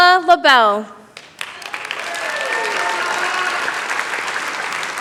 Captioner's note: applause